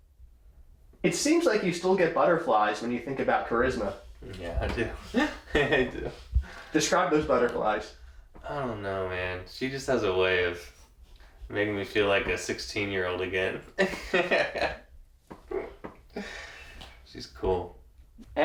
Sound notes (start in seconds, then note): 4.7 giggle; 15.4 laughing